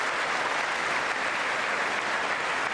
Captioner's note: applause